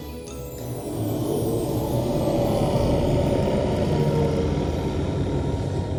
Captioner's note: growling